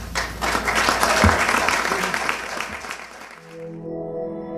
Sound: applause

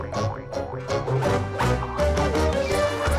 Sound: squawks

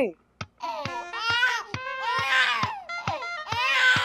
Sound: baby crying

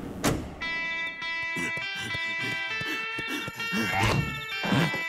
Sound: panting

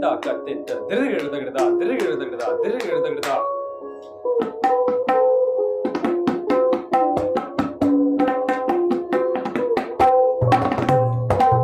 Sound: speaking Punjabi

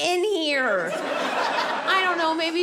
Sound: audience laughing

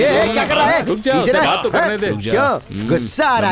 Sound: laughs

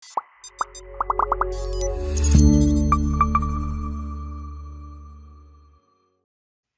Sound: bright popping; bright music

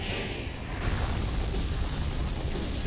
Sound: rumbling

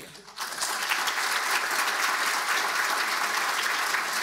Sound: audience applauding

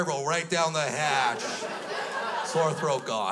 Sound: crowd laughs

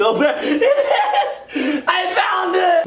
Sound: laughs

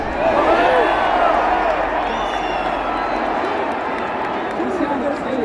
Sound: clap

